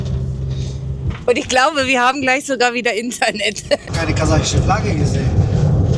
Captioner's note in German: gelächter